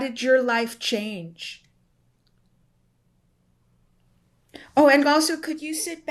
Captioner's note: pauses for 3 seconds